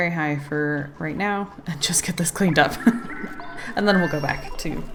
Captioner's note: laughs